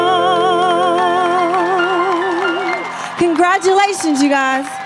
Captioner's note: audience applauding and cheering